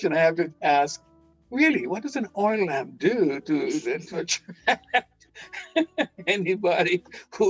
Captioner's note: laughing; laughing